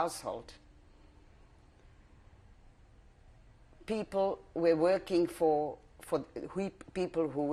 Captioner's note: pauses for 3 seconds